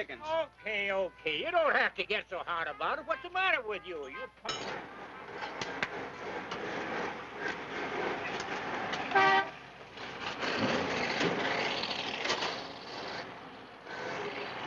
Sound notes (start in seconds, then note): 9.0 horn honking; 11.7 engine rumbling